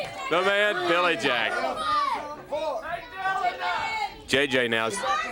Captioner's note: crowd chatter